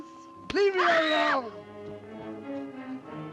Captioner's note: screams